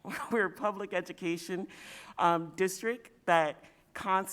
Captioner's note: chuckle